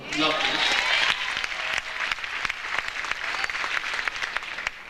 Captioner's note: audience applauds